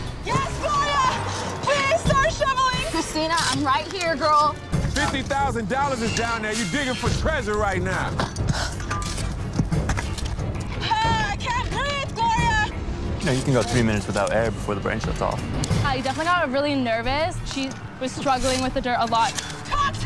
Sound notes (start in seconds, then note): 2.4 shovel scrapping; 9.5 urgent music